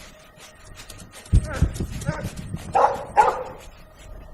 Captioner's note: whimpering, barking